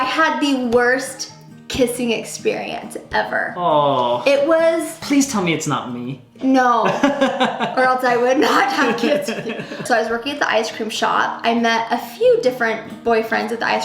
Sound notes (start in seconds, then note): 6.8 laughing